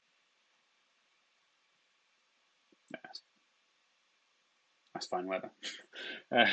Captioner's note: chuckles